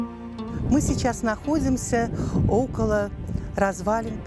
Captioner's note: in Russian